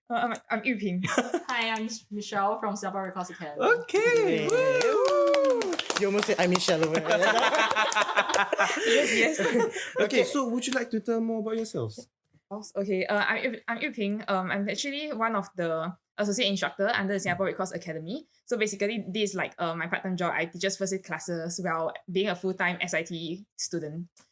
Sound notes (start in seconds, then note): 1.1 laughs; 3.9 claps; 7.2 laughs